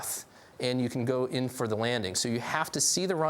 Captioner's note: none